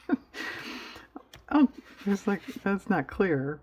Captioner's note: laughs